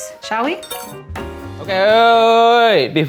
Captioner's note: upbeat jazz music; bell dinging